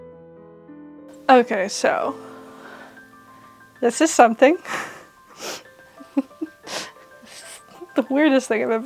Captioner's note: slightly deranged giggle